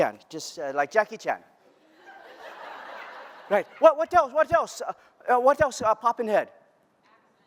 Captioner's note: laughter